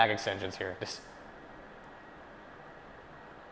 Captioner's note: silence